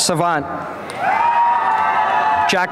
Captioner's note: applause and cheering